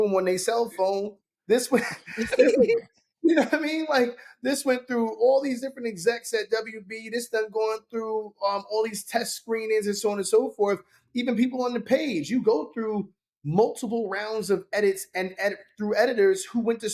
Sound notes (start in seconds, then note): 1.7 laughing